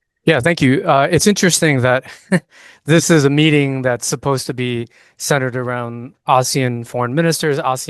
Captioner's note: laughs